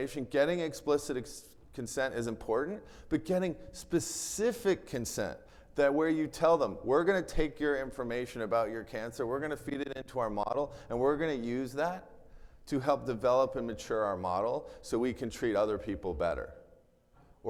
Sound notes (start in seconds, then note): none